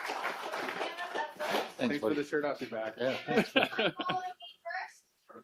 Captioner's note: applause